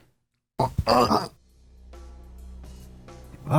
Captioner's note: reversed voices